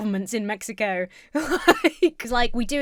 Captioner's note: laughs